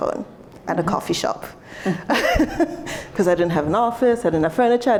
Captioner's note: laughs